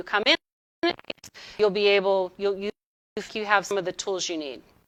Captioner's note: audio distorting